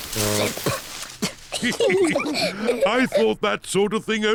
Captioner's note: coughs; all giggling